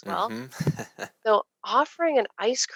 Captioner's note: laughing